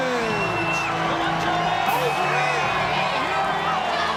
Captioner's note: audience cheering; triumphant music continues